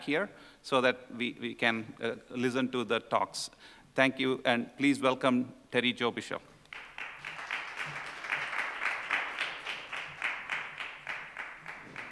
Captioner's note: applause